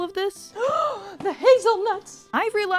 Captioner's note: gasp